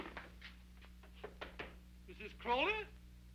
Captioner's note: knuckles rapping